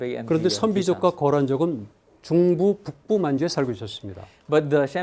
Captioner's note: speaking in Korean